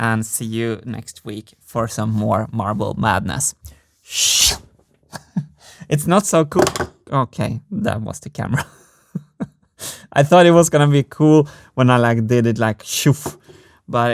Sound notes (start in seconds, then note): 4.0 whoosh; 5.1 chuckles; 9.3 laughs